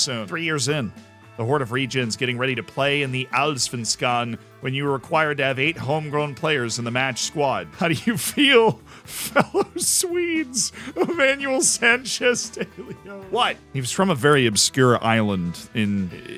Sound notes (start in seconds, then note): 9.0 laughs; 16.1 stutters